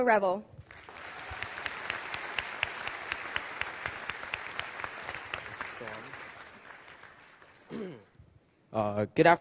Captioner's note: applause